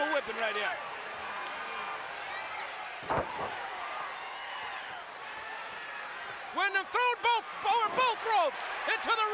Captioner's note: applause